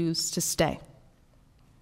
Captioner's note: none